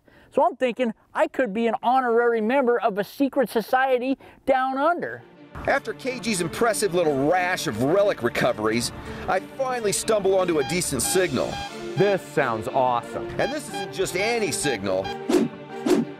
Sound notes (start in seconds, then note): 10.5 beeping